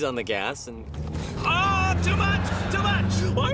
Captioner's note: engine revving